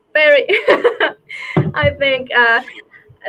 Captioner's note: laughs